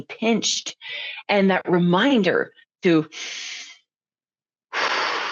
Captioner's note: breathing out